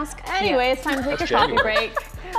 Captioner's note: laughter